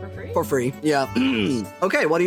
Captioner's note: clears Throat